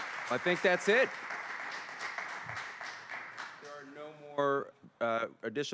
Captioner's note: applause